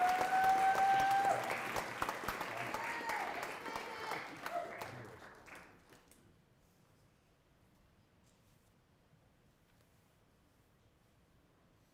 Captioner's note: applause